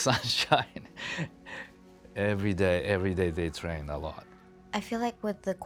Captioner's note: laughs